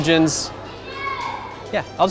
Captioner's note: kid screaming